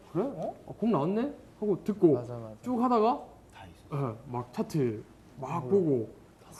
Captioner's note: whispering